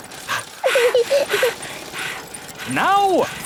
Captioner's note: chuckles; mummy pig panting; daddy pig panting; peppa chuckles